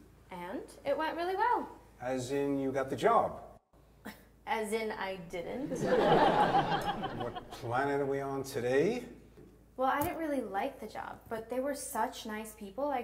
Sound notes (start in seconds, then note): 4.1 scoffs; 5.6 audience laughs